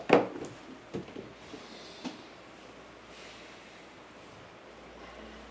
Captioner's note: deep Breathing